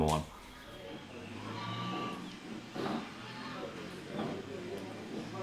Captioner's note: birds chirping